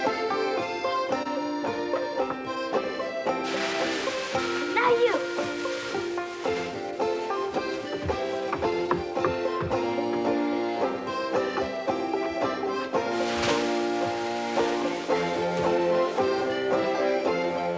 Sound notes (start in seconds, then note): 3.3 hay rustling; 6.9 bright acoustic music; 13.0 hay rustling